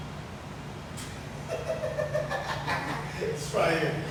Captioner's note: laughing